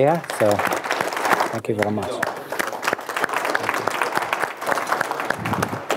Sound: applause

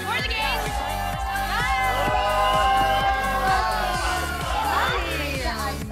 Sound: cheering

